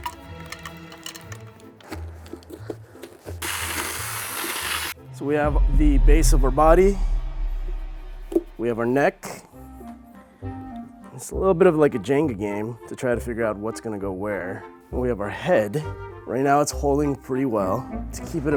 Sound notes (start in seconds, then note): 0.1 seeds clattering; 1.9 loud shredding; 3.4 drill whirring